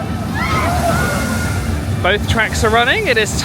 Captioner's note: guests squealing